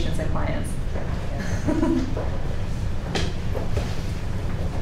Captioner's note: laughs